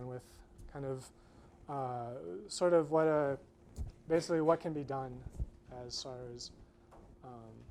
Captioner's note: none